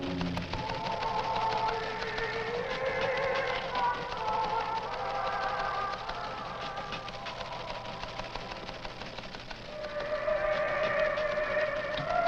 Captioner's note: radio